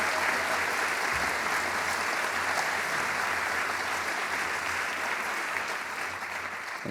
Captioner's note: applause